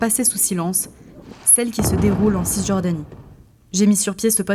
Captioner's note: Bruits de bombes